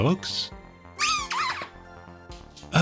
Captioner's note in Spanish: ruido chirriante